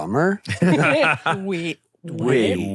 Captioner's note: laugh